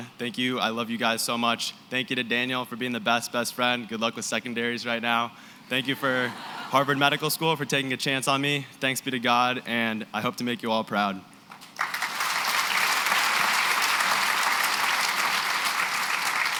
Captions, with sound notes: thank you. I love you guys so much. Thank you to Daniel for being the best, best friend. Good luck with secondaries right now. [LAUGHTER] Thank you for Harvard Medical School for taking a chance on me. Thanks be to God, and I hope to make you all proud. [APPLAUSE]